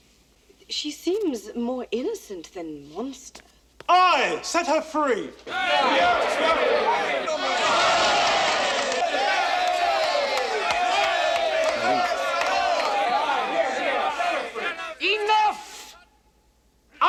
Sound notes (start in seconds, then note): 5.4 all cheering